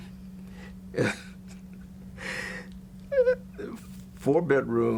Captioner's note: laughs